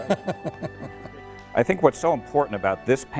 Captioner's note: laughs